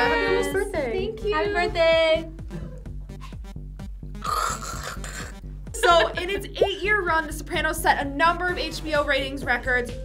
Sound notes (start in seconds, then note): 2.2 upbeat music; 4.2 gags